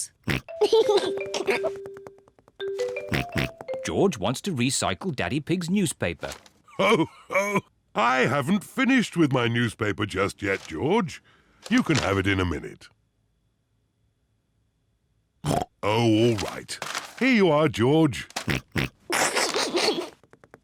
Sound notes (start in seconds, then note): 0.3 snorts, giggles; 3.0 snorts; 6.7 laughs; 15.5 snorts; 18.4 snorts, snickers